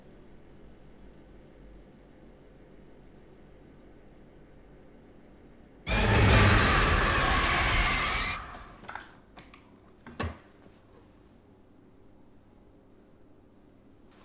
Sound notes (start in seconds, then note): 5.9 dramatic musical score; 8.3 lamp rattles; 8.3 light clicks